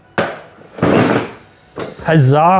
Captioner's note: banging